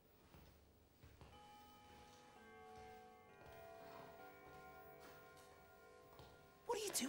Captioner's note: clock chimes